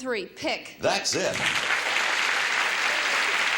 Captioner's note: audience applauds